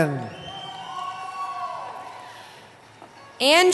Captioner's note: cheering